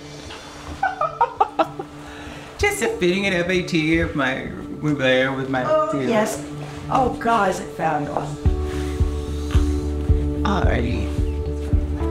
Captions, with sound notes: [Laverne laughing] Just a fitting at FIT with Mugler we're there with my team. - Oh, yes. Oh, God, is it fabulous. - All righty.